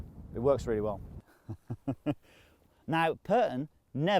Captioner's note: laughing